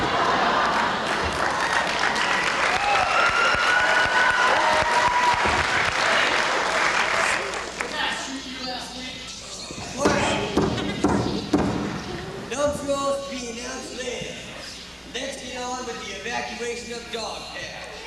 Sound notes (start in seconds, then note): 0.2 applause; 9.8 gavel bangs